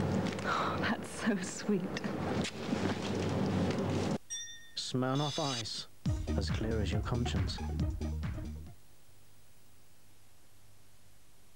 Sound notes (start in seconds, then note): 4.2 ding!